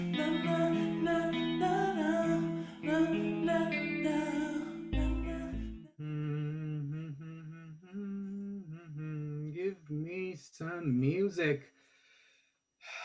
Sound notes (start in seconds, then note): 5.9 Duke Orsino hums